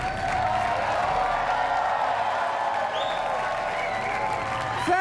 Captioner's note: cheering and applause